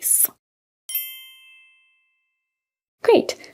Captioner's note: bells chiming